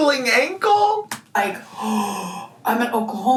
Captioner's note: gasps loudly